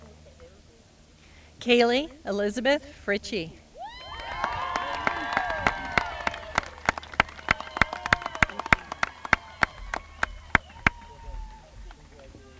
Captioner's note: applause